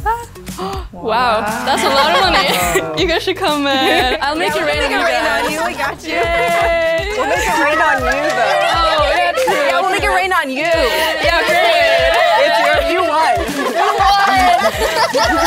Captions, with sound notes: - Wow. That's a lot of money. You guys should come. I'll make it rain. (all cheering) We'll make it rain on you though. Yeah we'll make it rain on you. (all cheering and giggling)